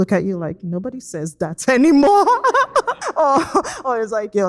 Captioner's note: laughs